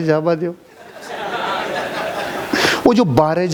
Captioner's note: laughing